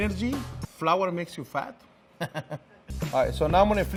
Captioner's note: laughing